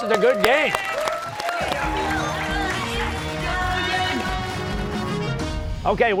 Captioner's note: cheers and applause